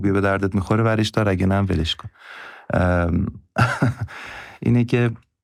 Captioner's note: laughs